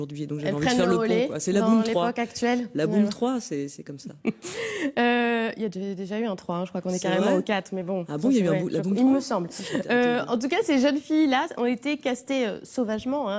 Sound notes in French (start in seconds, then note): 4.2 rires